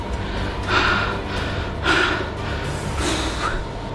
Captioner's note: breathing heavily; sighs